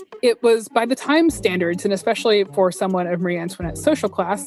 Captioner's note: none